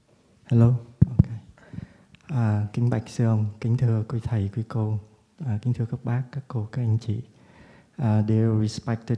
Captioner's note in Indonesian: berbicara dalam bahasa Vietnam